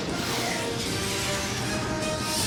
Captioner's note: rockets whoosh